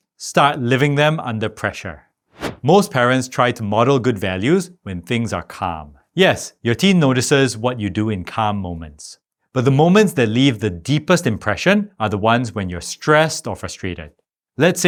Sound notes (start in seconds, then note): 2.3 air whooshing